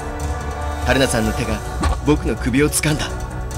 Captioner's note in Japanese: 手で首を掴む音：バッ！